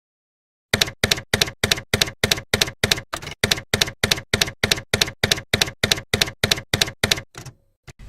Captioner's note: typewriter keys clacking